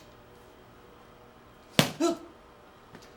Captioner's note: book slams